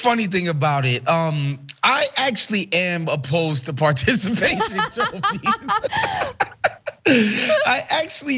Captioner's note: laugh